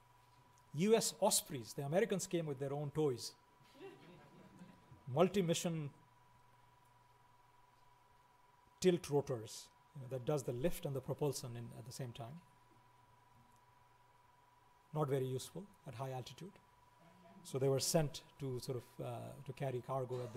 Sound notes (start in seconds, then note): 3.7 laughing